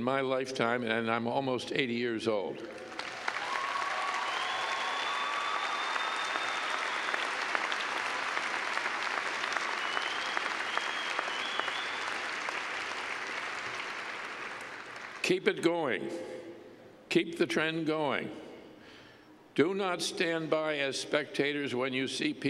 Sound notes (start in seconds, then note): 2.7 cheers and clapping